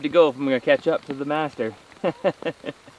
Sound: laughs

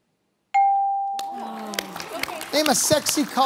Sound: applause

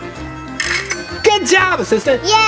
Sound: cash register dings

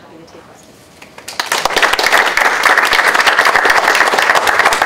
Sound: applause

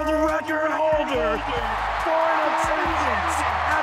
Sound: audience cheering

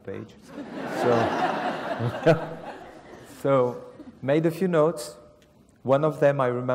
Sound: laugh

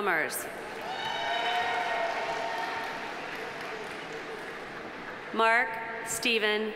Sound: audience cheering; audience applauding

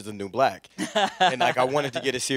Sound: laughs

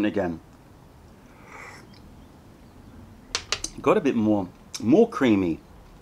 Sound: sips tea

